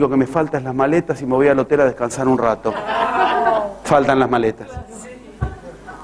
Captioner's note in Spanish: risas